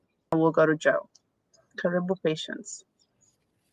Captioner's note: speaking swahili